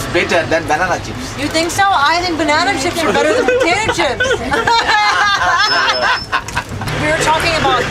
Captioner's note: laughter